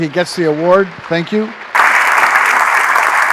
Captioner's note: applause